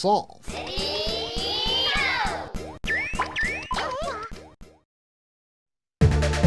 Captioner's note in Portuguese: Áudio com falha